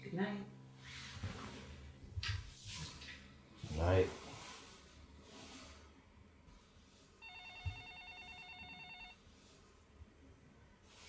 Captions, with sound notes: - Goodnight. - Goodnight. (phone ringing)